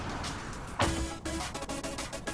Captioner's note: car door closes